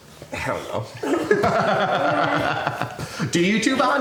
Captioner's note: laughing